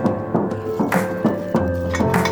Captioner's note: light rustling; metal clanking